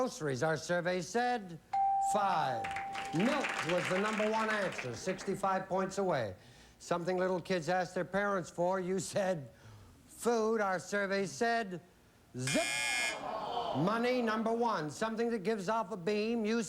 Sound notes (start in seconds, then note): 13.1 audience groans